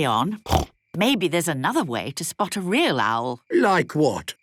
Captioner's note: snorting